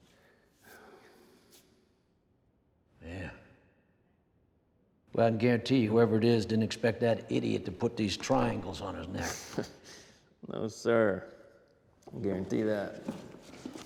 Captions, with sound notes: [SIGHS] YEAH. BUT I CAN GUARANTEE YOU, WHOEVER IT IS DIDN'T EXPECT THAT IDIOT TO PUT THESE TRIANGLES ON HIS NECK. [CHUCKLES] NO, SIR. I GUARANTEE THAT.